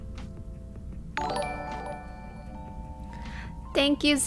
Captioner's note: notification tingling